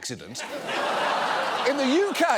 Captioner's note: audience laughs